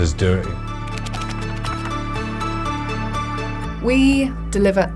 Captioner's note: bright music; pages flipping